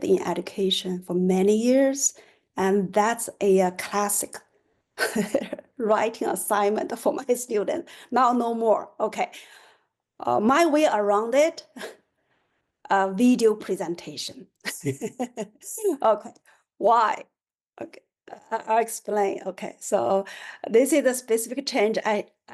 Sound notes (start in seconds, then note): 14.7 laughter